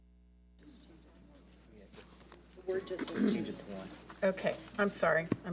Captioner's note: talking softly off mic